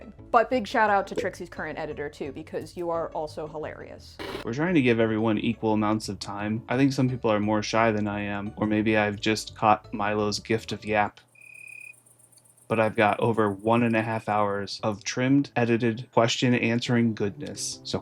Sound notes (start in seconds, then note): 4.1 TV noise; 11.3 cricket chirp